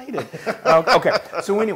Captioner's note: laugh